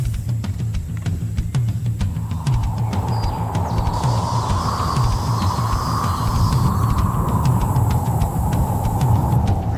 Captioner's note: wind